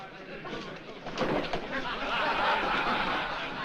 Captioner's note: men Laugh